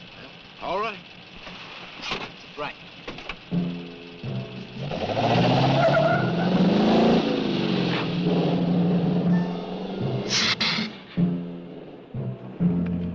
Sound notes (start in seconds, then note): 3.5 dramatic music; 4.4 tires squealing; 10.2 lizard hissing